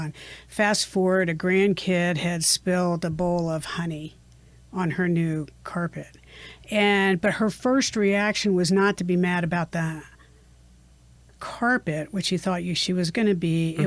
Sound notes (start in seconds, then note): none